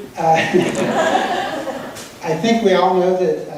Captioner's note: audience laughing